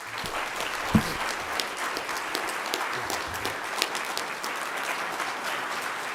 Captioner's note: applause